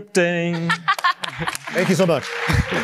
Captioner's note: laughs